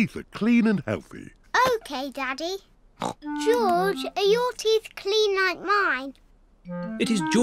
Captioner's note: snorts